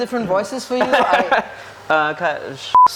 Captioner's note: coughs dismissively